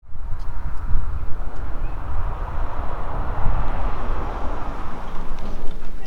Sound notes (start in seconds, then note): 0.0 road noise